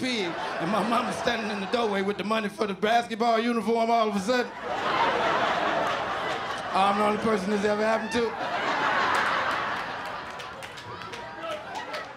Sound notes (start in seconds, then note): 4.5 laughter